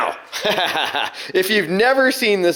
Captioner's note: laughter